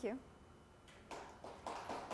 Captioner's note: applause